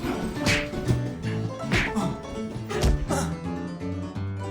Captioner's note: feet scuffling; fist pounds; Henry groaning; upbeat saloon music continues